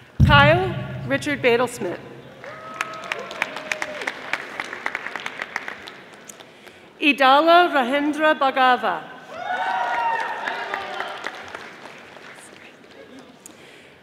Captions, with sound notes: Kyle Richard Badal Smith, (audience applauding) Idalo Rahindra Bagadha, (audience applauding)